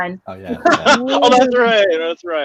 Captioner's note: laughing